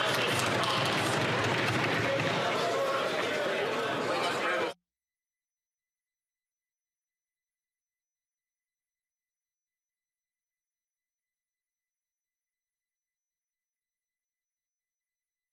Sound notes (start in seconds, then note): 2.1 some Applause